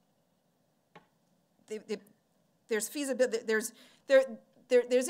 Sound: stammering

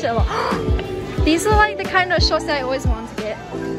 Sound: gasp

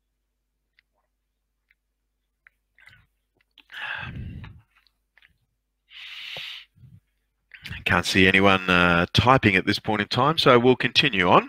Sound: silence

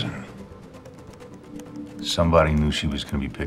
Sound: keyboard clicks

